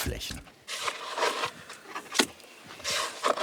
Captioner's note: scavengering, fragments of conversation